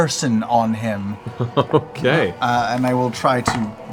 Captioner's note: laughs